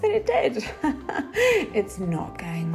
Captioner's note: laughs